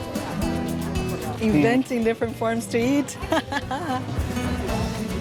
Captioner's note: laughs